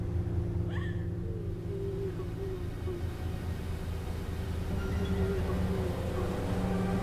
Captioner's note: siren sobbing; music intensifies; sobbing continues